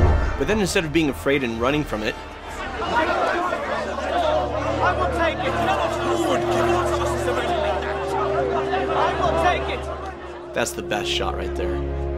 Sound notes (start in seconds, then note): 6.6 arguments drown Frodo's voice